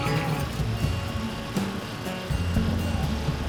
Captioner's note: A generator hums